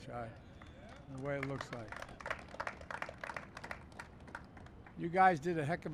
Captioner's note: applause